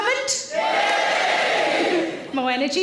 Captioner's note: audience cheer louder